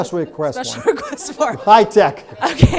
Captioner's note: laughs